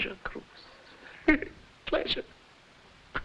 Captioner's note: laughing